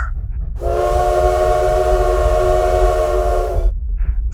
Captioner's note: sirens